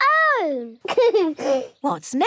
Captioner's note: giggles